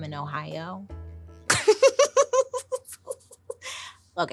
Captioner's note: laughing